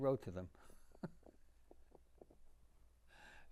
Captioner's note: laughing